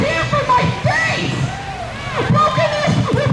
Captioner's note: crowd cheers